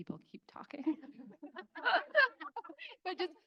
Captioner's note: crowd laughing